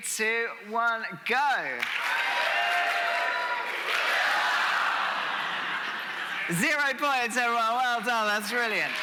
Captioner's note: audience making noise